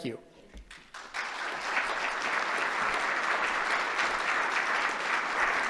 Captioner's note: applause